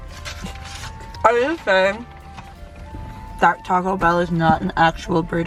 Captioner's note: laughs